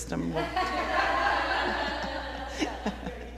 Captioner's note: laughter